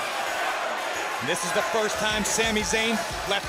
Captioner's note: crowd chatter